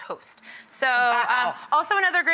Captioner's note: laughs